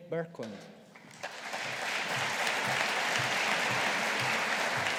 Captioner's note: audience applauding